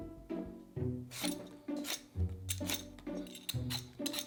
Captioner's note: potato peeling